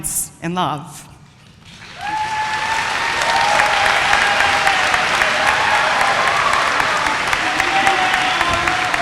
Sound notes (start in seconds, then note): 1.7 applause